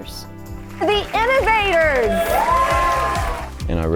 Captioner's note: crowd cheering